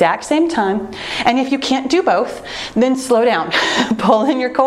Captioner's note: chuckles